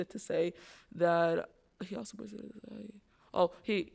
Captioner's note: speaking faintly